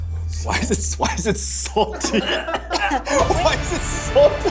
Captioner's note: laughing